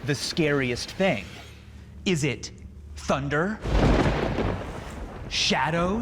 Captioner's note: thunder crackles